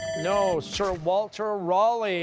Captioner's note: bell ringing